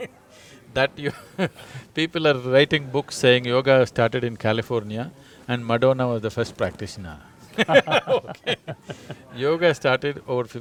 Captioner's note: laughter